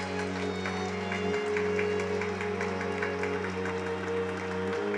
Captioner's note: string quartet; audience applauding